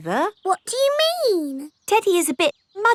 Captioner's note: in normal voice